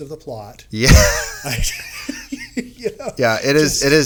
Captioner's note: laughing